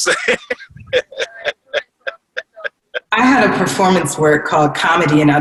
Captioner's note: laughs